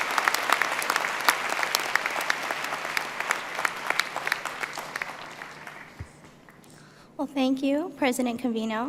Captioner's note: applause